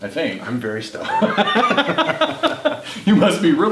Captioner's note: guys laughing